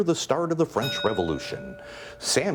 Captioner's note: bell ringing